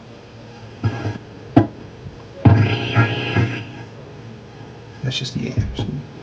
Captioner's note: radio static hissing